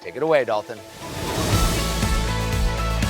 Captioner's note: air whooshing; upbeat music